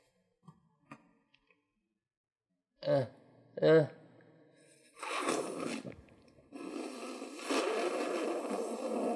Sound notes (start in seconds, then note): 4.9 slurping